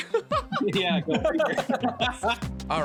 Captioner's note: laughing